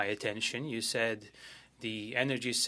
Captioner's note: speaking French